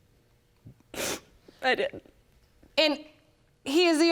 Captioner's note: sniffling